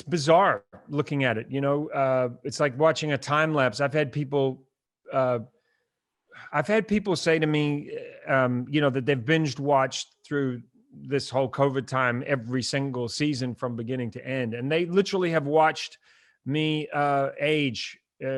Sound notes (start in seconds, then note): none